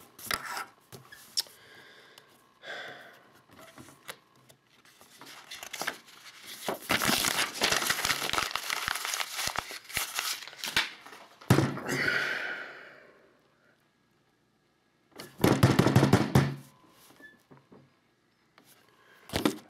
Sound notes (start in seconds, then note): 2.6 sighs; 7.3 crumpling; 11.4 thumps; 11.8 sighs; 15.3 pounding